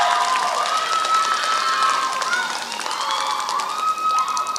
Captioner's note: applause